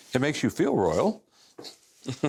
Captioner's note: laughter